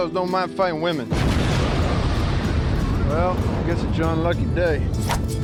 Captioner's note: explosion